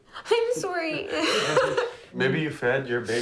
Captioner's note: laughs